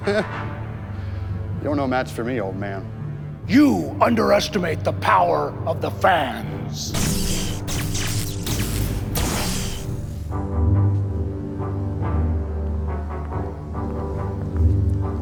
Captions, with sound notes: (laughs) - You're no match for me, old man. - You underestimate the power of the fans. (light sabers hissing)